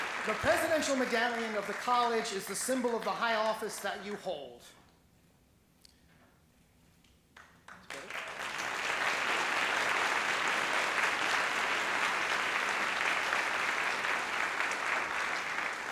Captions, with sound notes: The presidential medallion of the college is the symbol of the high office that you hold. (applause)